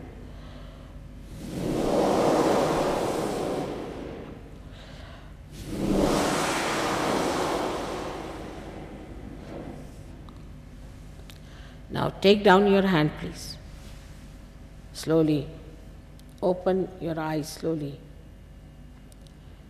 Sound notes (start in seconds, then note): 1.2 shri mataji blows into the microphone